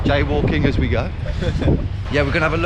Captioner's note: laughs